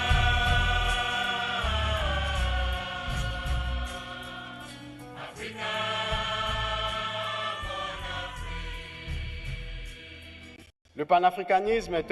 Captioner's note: applause, choir singing